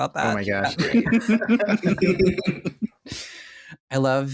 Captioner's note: laughter